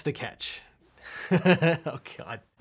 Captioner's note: chuckling